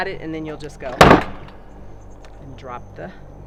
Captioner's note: lid thumps